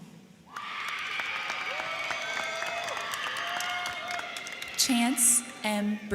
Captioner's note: crowd cheering; crowd clapping